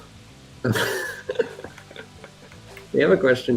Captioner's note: laughter